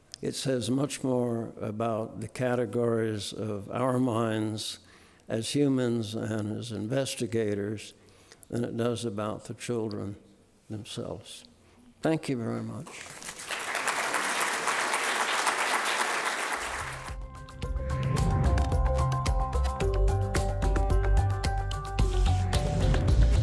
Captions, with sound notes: It says much more about the categories of our minds as humans and as investigators than it does about the children themselves. Thank you very much. (audience applauding) (soft music)